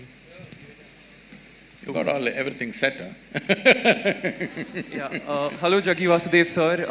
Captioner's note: laughs